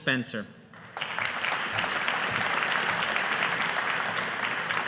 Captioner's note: audience applauding